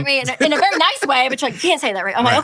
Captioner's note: chuckles